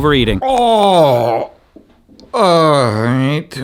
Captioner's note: groans